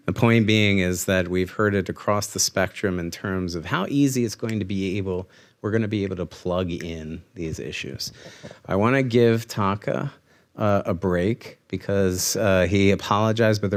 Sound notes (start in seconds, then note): none